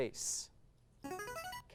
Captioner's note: device sound